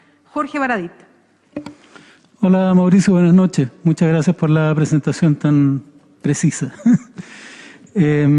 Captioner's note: laughs